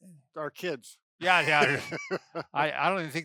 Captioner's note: laughs